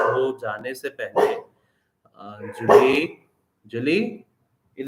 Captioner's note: bark sound; dog bark